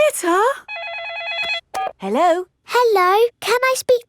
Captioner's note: phone rings